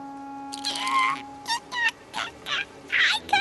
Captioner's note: squeaking